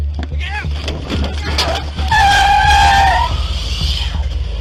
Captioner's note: tires screeching